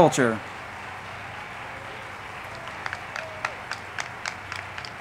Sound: crowd clapping

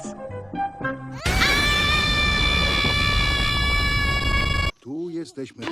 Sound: screams

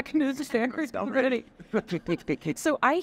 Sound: laughing

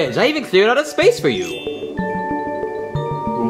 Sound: chimes ringing; playful music

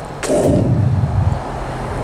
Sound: exhaling

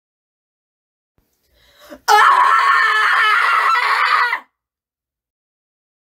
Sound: scream

